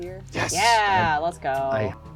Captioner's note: pat